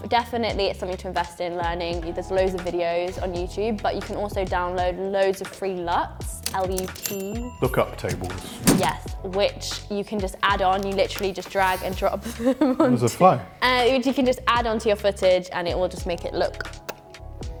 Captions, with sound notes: Definitely, it's something to invest in learning. There's loads of videos on YouTube but you can also download loads of free LUTs. - Lookup Tables. - Yes, which you can just add on. You literally just drag and drop. (whizzing noise) - There was a fly. - You can just add onto your footage and it will just make it look (kissing noises).